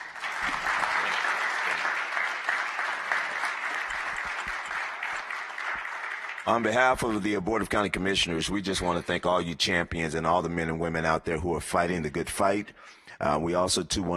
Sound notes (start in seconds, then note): 2.7 applause